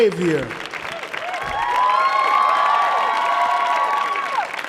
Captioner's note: audience cheering